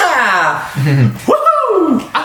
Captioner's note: laughs